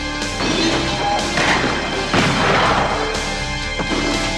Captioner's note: dramatic music; guns firing